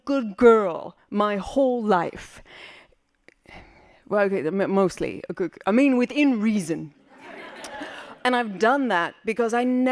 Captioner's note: laughing